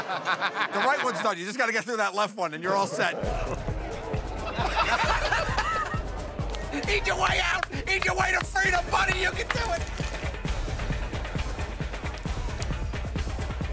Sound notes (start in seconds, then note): 4.3 laughter